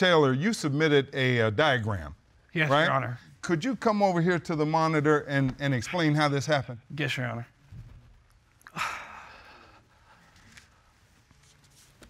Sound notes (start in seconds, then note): 9.3 groaning